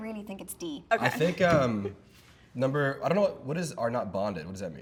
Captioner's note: laughing